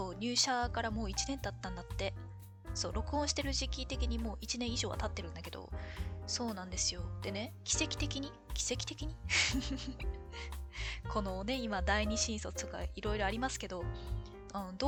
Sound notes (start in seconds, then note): 9.4 laughs